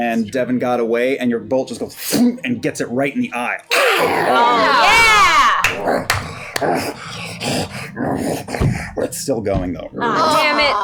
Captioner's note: impact; grunting